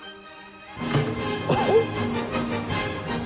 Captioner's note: chuckling; upbeat instrumental music